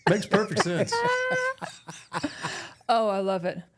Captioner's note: laughing